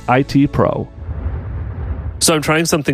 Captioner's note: air whooshing